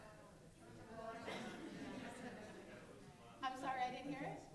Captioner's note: audience murmuring